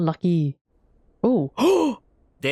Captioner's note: gasp